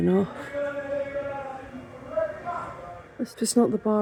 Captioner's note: shouting